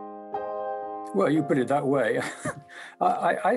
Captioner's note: chuckles